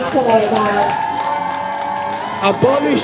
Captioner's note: cheering